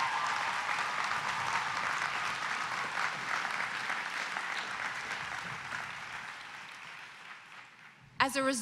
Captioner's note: cheers and applause